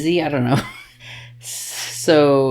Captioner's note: laughs